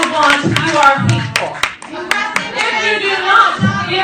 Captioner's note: trans activists begin to yell again